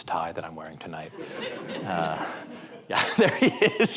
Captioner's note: audience members laugh